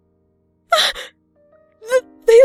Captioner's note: gasp